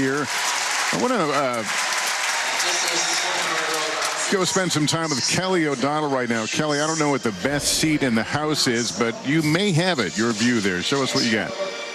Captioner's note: applause